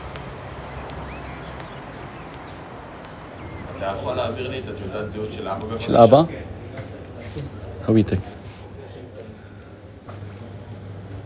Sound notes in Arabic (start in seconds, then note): 3.9 رجل يتحدث لغة أجنبية; 6.0 يتحدث لغة أجنبية